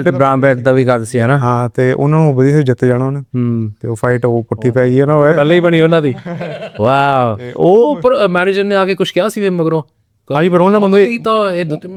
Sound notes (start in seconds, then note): 6.0 laughs